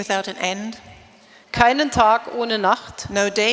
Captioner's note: speaking in German